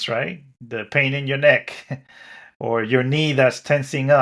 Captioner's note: chuckles